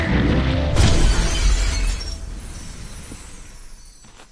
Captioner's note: stone shattering